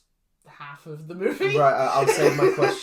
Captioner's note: laughs